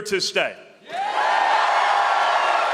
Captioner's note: cheering and applause